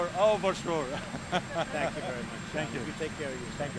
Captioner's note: laughs